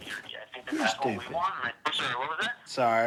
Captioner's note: on phone